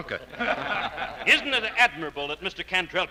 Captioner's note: audience laughing